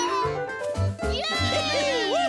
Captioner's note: cheering